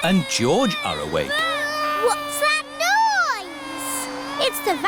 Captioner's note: vacuum cleaner whirring